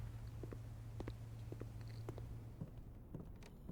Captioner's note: footsteps